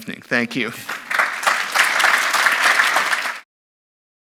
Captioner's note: applause